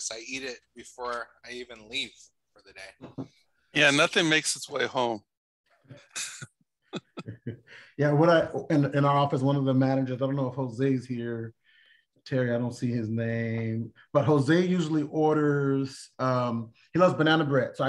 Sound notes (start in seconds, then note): 5.3 laughter